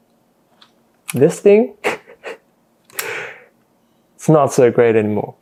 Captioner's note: laughs at self